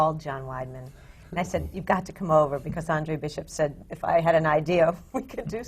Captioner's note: laughs